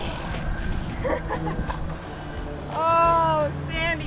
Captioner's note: laughing